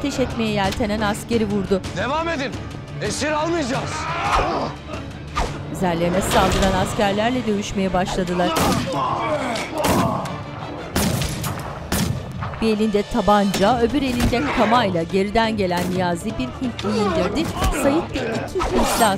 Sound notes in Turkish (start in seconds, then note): 3.5 Bağırma sesi; 8.0 Dövüş sesleri; 8.3 Silah sesleri; 13.7 Vurma sesi; 15.6 Dövüş sesleri; 16.6 Silah sesleri